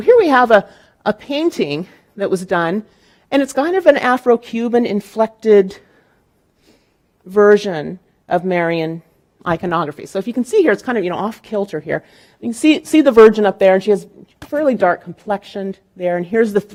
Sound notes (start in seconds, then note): none